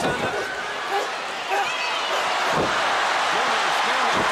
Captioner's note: crowd cheering